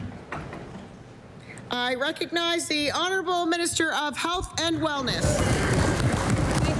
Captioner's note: applause